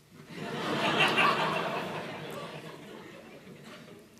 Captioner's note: laughter